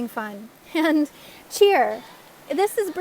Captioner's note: laugh!